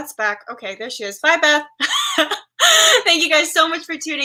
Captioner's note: laughs